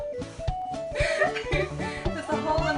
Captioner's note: laughs